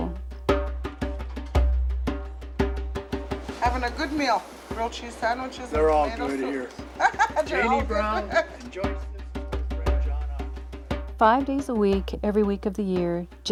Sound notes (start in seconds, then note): 0.2 drum music; 6.7 laughter; 9.6 drum music